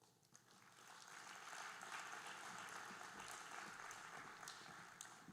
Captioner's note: audience applauding